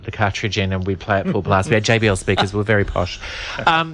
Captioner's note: laughs